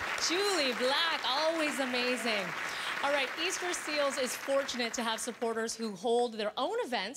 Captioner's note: applause